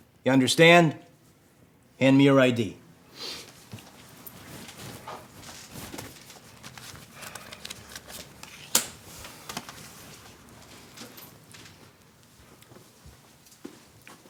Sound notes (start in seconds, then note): 8.6 ID clacks